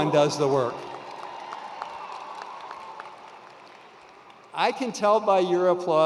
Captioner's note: attendees applauding